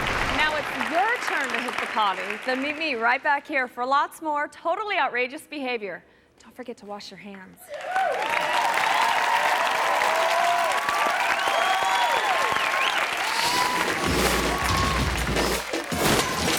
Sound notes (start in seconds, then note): 0.0 audience clapping; 0.0 logo whooshing; 7.7 audience cheering ang clapping; 13.3 logo whooshing